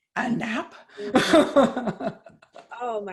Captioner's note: chuckles